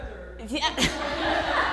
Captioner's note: laughter